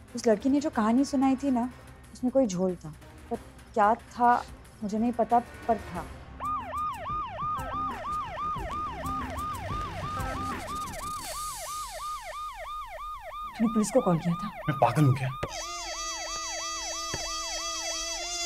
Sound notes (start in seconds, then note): 6.7 Siren wailing; 15.4 Car door opens; 17.1 Car door closes